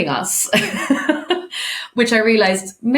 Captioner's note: laughing